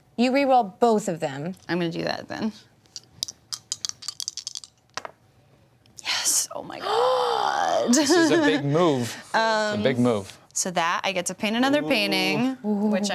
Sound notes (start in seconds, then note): 2.9 dice clatter; 6.7 gasps